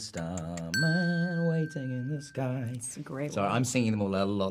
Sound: timer ringing

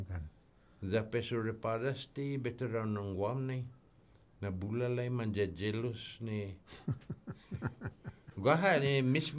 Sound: laughing

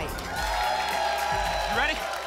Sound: applause and cheering

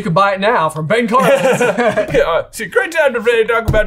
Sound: both laugh

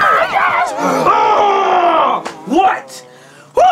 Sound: grunts

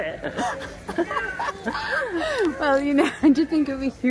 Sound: both laugh

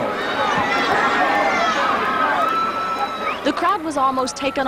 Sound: crowd sounds

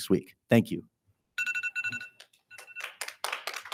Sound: timer beeps

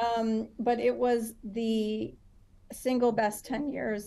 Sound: none

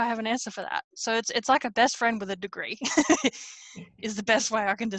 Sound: laughs

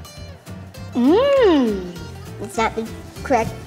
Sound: groaning happily

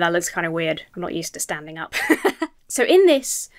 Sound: laughs

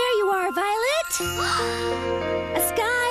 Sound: Violet Gasps

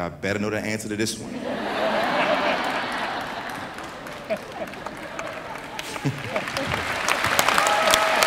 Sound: laughter

